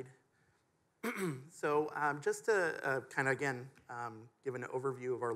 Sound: clears throat

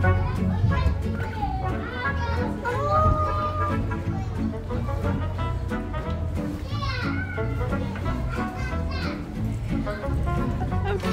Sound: sounds of children playing

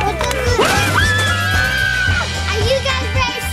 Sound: everyone shrieking; Chuck thudding

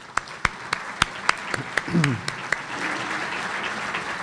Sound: audience applauding

